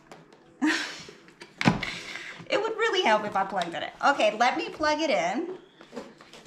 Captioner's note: laughs